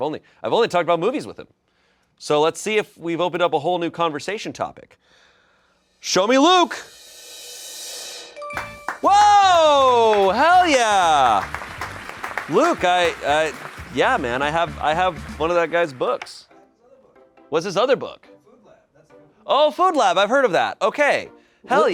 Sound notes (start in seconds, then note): 7.2 drum roll hisses; 8.3 bell chimes; 11.6 crew applauds